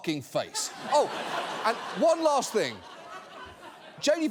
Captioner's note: studio audience laughing